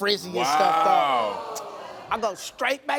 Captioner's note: audience groans